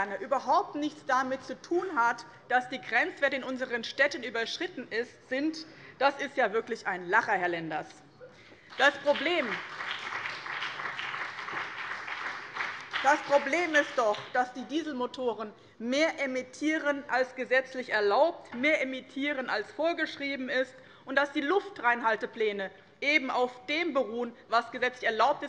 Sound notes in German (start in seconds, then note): 8.6 Beifall BÜNDNIS 90/DIE GRÜNEN